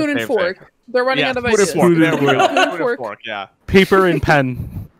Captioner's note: laughing